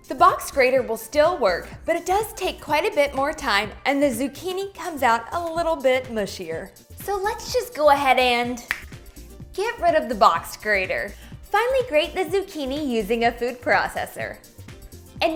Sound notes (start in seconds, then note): 8.6 snaps